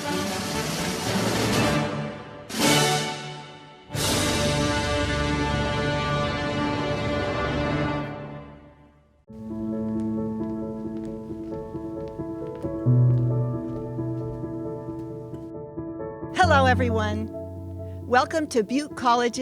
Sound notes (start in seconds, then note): 9.3 music: soft piano; 9.3 footsteps